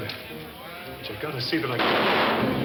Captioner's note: gun fires; bar patrons chattering; dramatic orchestral music